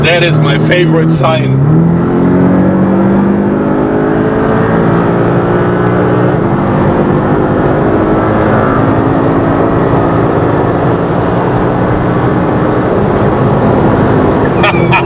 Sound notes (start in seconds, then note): 2.7 sound of the car accelerating; 14.5 laughter